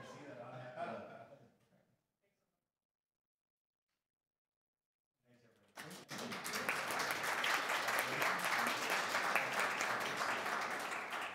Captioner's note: applause